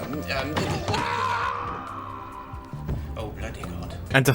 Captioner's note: distant yelling, thud